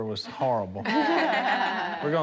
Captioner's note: laughing